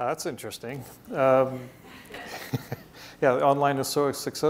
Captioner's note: chuckles